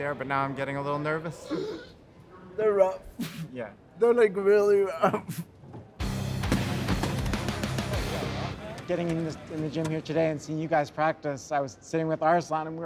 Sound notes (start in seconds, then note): 6.0 intense rock music; 6.1 wheel chair bangs